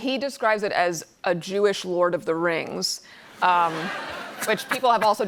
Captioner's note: laughter